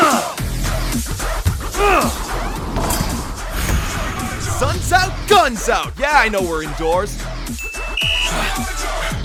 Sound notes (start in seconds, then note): 3.7 shoe-fart; 7.5 ding